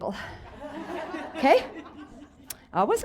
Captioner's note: audience laughs